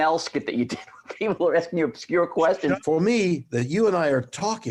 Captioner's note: laughs